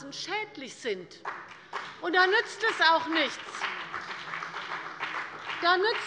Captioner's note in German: Beifall bei der CDU und dem BÜNDNIS 90/DIE GRÜNEN